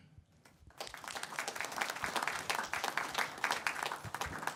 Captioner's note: audience applauds